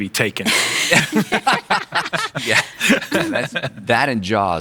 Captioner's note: laughing